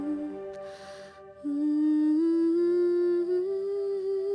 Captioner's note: hums